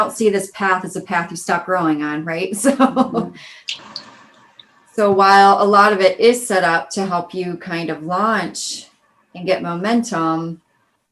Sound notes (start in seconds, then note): 2.6 laughing